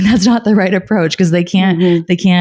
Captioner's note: laughing